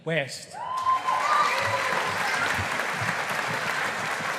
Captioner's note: audience applauding